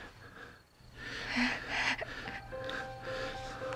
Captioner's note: gentle music; Mindy chuckles